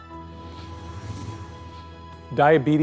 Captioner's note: contemplative music; whooshing